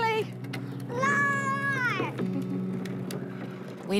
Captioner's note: chuckles